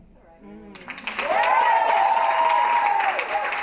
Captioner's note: cheering and clapping